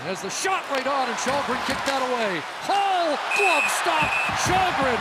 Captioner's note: cheering and Applause